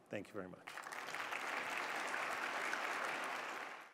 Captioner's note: applause